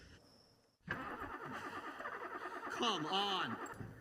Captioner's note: engine cranking